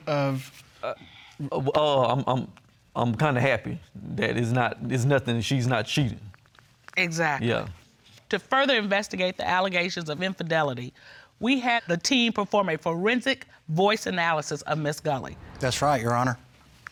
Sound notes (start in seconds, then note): 2.8 stuttering